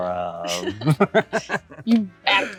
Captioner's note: Rob laughs